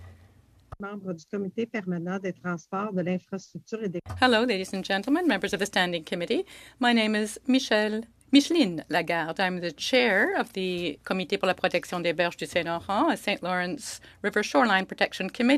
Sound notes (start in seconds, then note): 7.1 speaking French